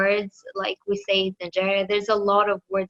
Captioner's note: speaks in foreign language